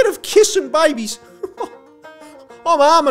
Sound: classic laughter

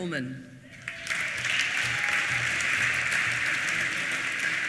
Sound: applause

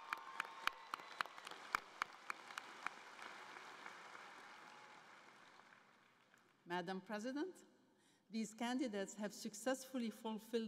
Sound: cheering and Applause

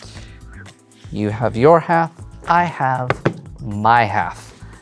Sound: thumps cards

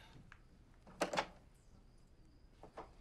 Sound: door opening

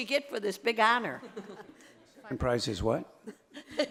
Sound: audience laughing

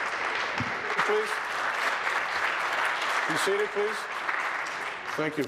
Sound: applause

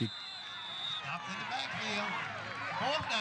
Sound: whistle blows, crowd cheering

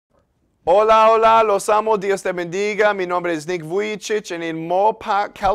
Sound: Spanish

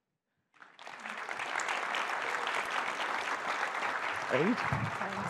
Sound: audience applauds

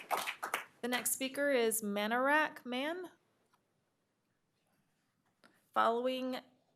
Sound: applause

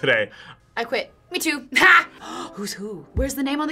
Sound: gasps

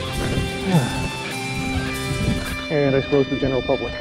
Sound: sighs

